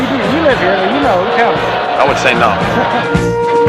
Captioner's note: laughs